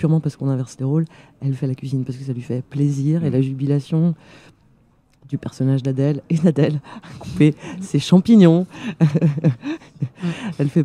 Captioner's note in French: rires